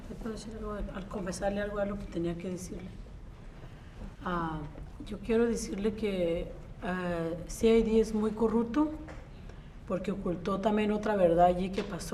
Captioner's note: speaks in Spanish